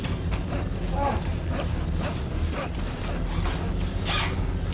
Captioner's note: knife clanks; knife rasping; moans; eerie music continues